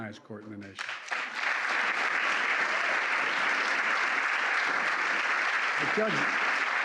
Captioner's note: applause